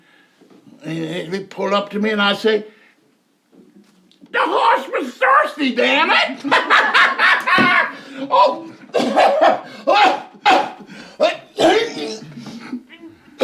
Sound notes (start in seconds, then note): 6.0 Jake laughs; 8.8 Jake coughing